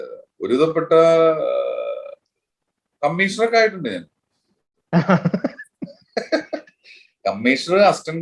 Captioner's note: both laughs